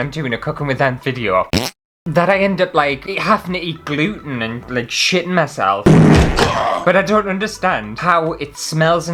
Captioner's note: fart!